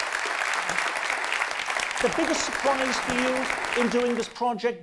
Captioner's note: audience applause